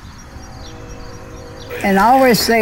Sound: train horn honks

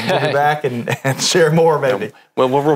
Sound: laughs

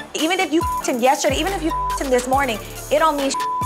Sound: beep

